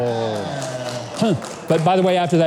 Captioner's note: audience applauding